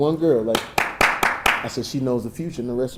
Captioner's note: Jamie applauding